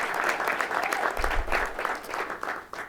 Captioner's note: applause